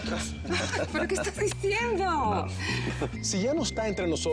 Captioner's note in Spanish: Risas